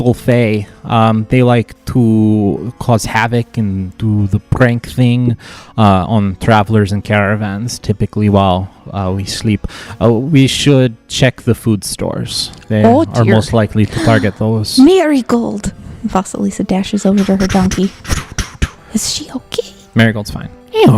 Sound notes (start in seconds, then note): 13.9 gasps; 20.6 hee-haws